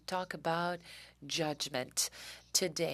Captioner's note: speaking French